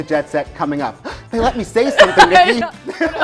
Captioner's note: gasps